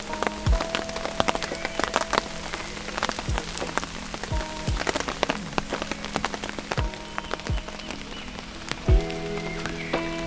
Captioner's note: rain